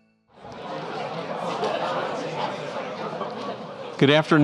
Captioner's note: audience chattering